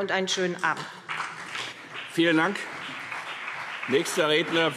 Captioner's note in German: Beifall CDU und BÜNDNIS 90/DIE GRÜNEN